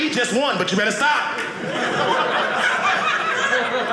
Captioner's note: audience laughing